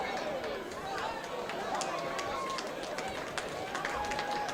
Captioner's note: spectators applauding